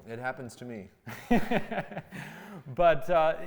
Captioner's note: both laughing